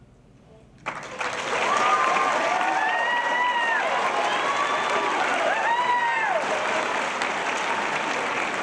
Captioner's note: applause